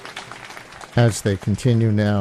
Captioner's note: applause